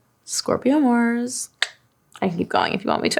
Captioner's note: clicks tongue